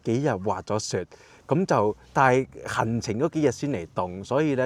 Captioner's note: car